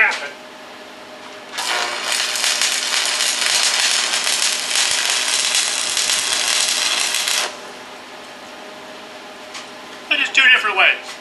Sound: welding

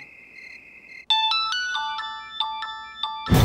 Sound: mobile phone ringing

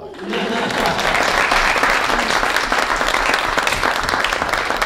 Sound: audience applauding

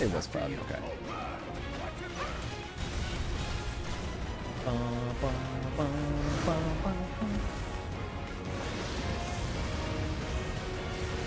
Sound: humming

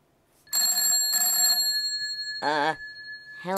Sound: ringing

